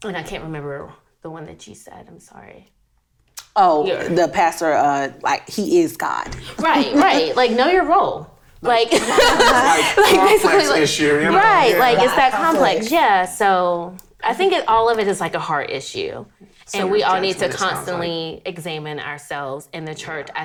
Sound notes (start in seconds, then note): 8.7 laughing